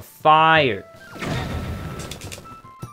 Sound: bomb explodes, Link yells in pain

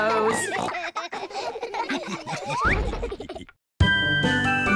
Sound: laughter

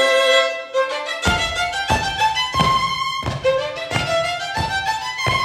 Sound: feet stomping

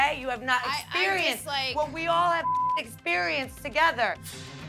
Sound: beep

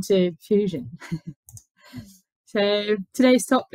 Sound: laughs

